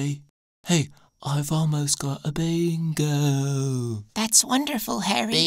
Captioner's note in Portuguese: Tranquilamente